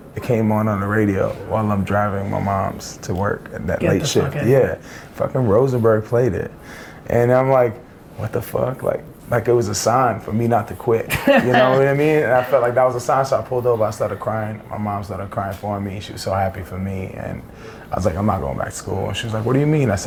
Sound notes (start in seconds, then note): 11.1 laughs